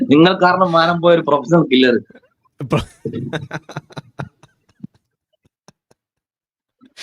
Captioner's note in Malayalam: പൊട്ടിച്ചിരി